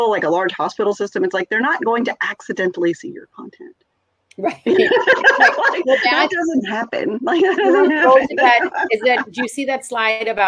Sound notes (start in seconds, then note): 4.4 laughs